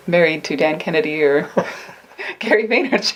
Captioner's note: laughing